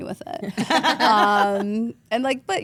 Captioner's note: group laughs